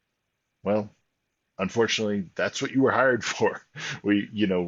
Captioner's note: laughs